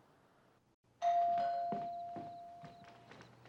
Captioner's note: doorbell rings